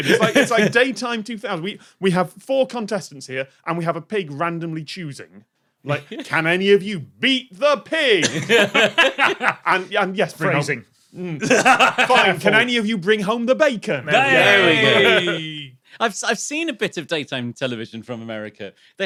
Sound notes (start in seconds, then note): 8.2 giggles; 8.6 cackles; 11.3 guffaws; 14.0 laughs